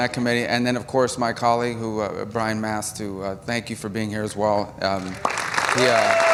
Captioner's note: laughter; applause